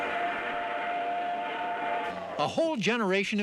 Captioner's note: train whistle blows